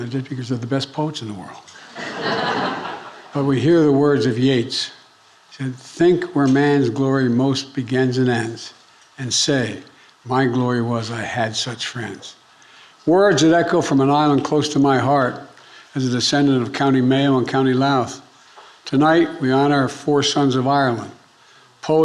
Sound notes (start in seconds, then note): 1.8 audience laughing